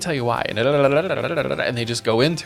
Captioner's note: tongue burbling